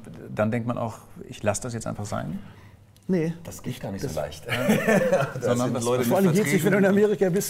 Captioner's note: laughs